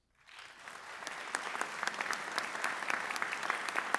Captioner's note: audience applauds